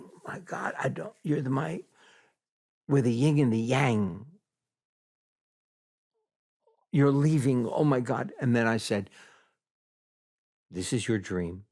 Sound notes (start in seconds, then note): none